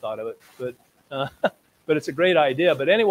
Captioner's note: laughs